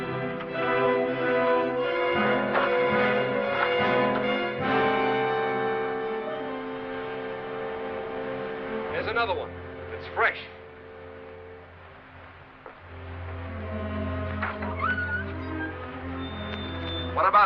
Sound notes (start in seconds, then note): 4.8 bell